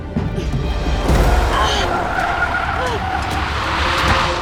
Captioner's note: gasping